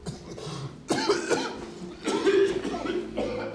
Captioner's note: coughs